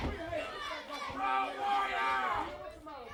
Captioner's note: crowd chatter